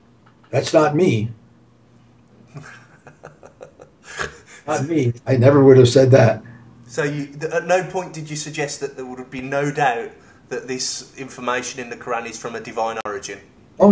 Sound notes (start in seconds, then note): 2.5 both laugh